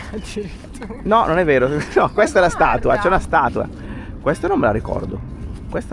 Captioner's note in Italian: risate